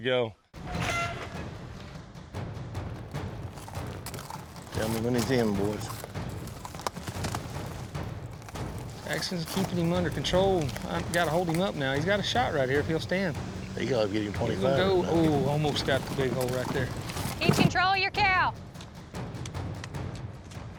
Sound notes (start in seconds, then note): 1.8 hoofbeats